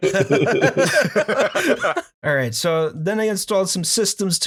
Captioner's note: laughter